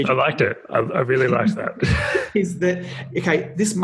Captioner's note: laughing